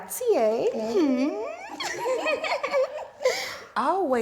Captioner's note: chuckling